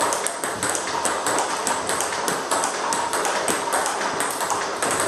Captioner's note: ball ping pong hitting continues